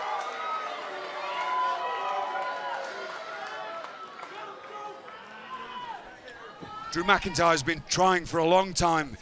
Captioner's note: crowd cheering